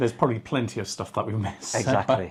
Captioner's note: laughs